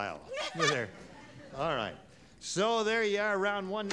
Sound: laughs

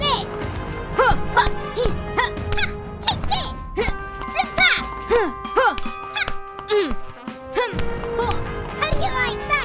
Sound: various Grunts and slapping noises

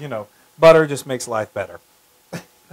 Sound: laugh

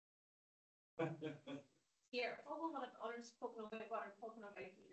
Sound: attendee laughs

